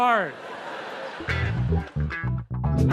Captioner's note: audience laughs; upbeat music